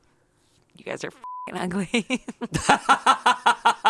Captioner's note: beep; laughs